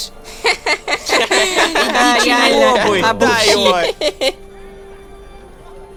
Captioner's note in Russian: Смех остальных детей